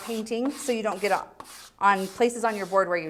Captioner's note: scraping